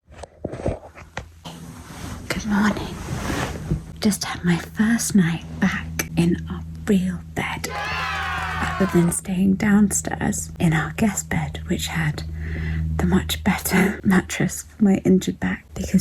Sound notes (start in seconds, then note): 0.3 cluttering noises; 7.6 crowd cheering